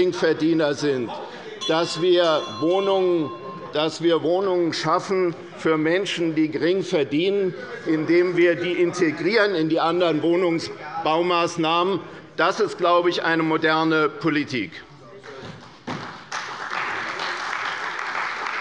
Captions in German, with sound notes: die Geringverdiener sind, [Unruhe - Glockenzeichen der Präsidentin] indem wir diese bei anderen Wohnungsbaumaßnahmen einbeziehen, ist, glaube ich, eine moderne Politik. [Beifall bei der CDU]